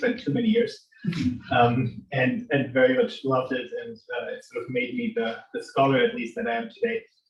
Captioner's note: laughter